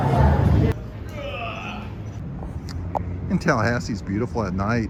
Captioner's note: announcer gabbling; guest groans